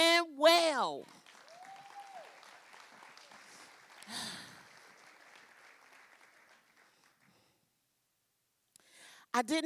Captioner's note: applause